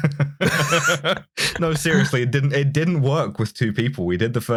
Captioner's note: laughter